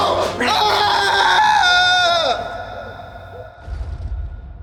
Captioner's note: prisoner screaming; distant bombs rumbling